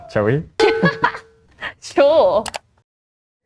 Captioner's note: laughs